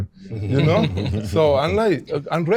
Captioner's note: all chuckling